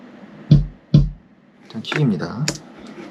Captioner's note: kick